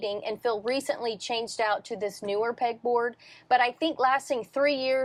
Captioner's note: none